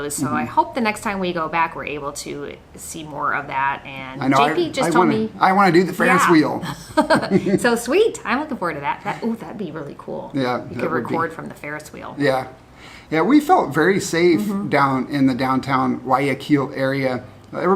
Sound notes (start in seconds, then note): 6.0 laughs